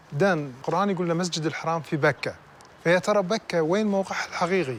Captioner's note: speaking foreign language